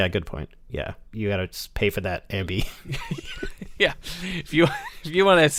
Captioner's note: laughter